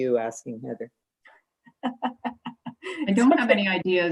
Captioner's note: laughing